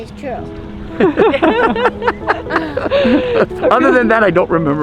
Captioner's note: everyone laughing